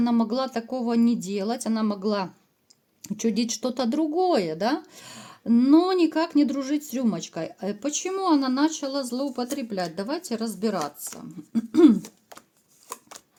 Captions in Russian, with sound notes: могла такого не делать. Она могла чудить что-то другое, да, но никак не дружить с рюмочкой. Почему она начала злоупотреблять? Давайте разбираться. [откашливается]